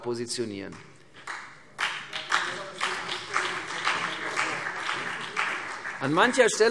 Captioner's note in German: Beifall CDU und BÜNDNIS 90/DIE GRÜNEN